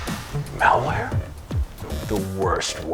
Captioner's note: whispered